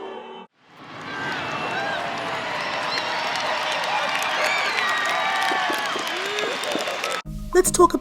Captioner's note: enthusiastic cheers for a well-bound edge